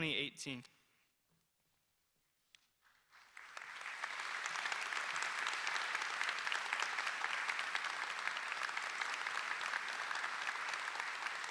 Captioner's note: applause